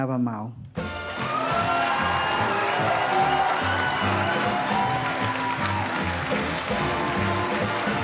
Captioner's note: cheerful music; audience cheering